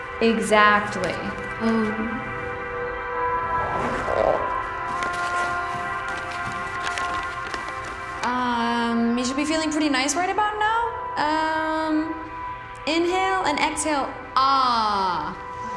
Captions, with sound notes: Exactly. - Ooooh. (zipping) (paper crinkling) - Um, you should be feeling pretty nice right about now. Um, inhale and exhale ah.